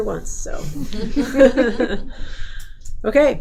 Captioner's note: laughing